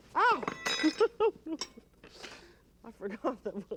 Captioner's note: chuckles